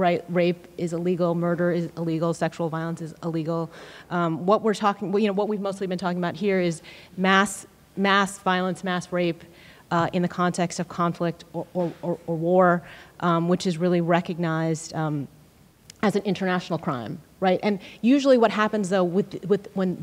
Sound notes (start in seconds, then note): none